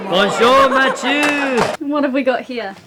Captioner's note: laughs